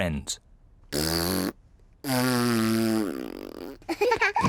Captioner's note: blowing raspberries; both laugh